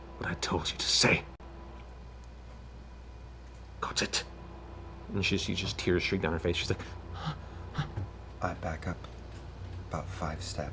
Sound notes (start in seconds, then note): 6.8 gasping